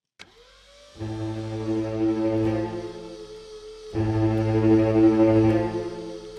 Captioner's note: machine whirring; tense ominous music